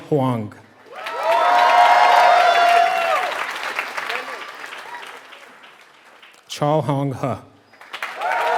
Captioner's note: applause